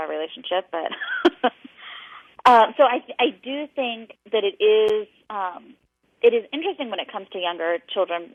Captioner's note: laughing